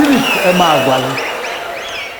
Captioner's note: wild applause and cheering for 22 seconds